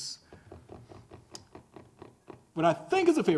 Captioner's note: fingers drumming on table